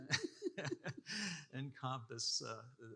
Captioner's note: participants laughing